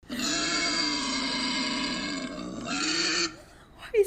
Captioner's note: indistinct snorting